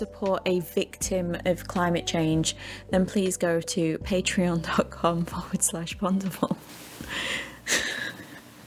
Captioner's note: laughs